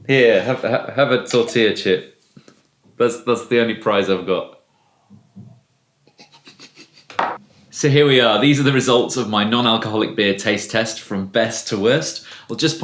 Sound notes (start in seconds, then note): 6.1 laughing